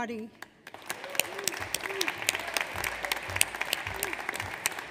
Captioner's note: audience applauds